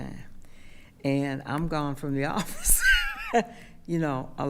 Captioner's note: laughs